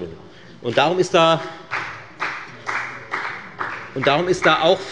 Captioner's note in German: Beifall bei der FDP